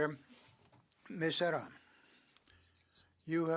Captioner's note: speaking French